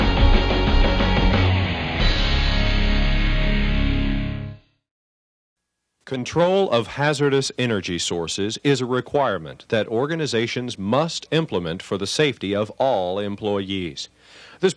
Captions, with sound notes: - [Voiceover] Control of hazardous energy sources is a requirement that organizations must implement for the safety of all employees.